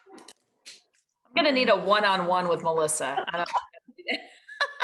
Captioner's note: laughs